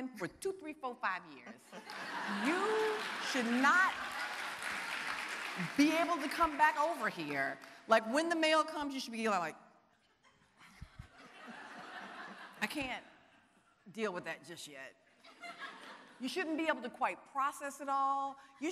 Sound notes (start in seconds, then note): 1.8 audience applauding; 11.0 audience laughing